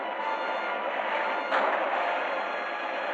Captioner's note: gunshot